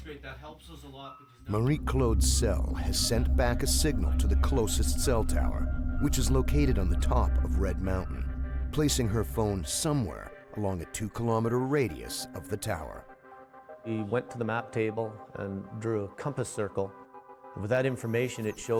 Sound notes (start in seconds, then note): 11.5 voiceover